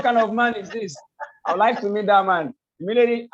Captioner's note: laughs